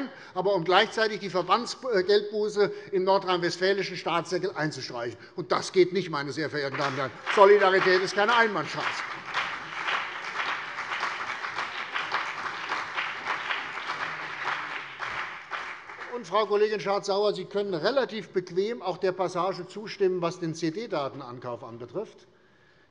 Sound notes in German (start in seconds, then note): 9.7 Beifall CDU und BÜNDNIS 90/DIE GRÜNEN